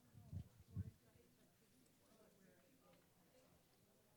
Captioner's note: audience mumbling